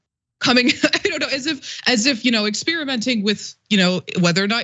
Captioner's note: laugh